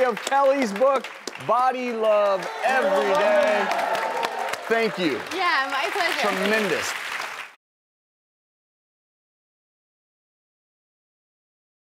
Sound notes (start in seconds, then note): 3.2 applauding and cheering